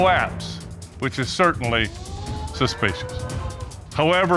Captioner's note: audience exclaiming